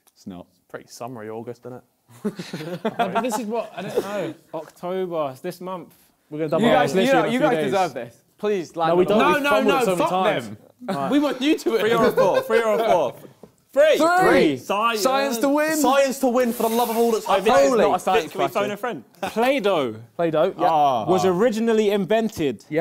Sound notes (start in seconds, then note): 2.1 both laughing